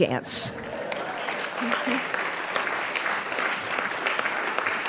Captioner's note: audience clapping